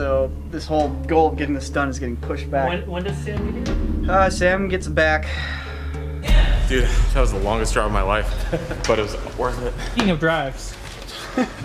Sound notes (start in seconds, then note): 5.2 sighs; 11.1 laughter